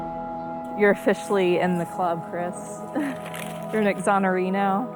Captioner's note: laughs